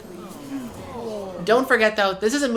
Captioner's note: various gasps and sighs